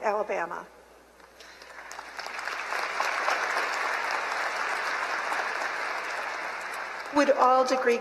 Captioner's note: applause